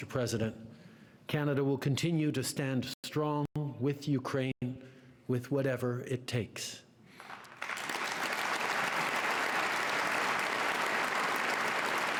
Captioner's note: applause